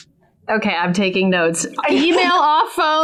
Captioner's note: laughs